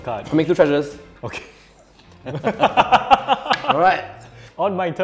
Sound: laughs

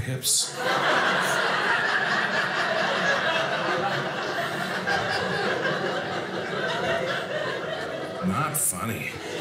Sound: audience laughing

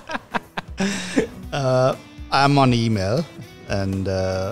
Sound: laughs

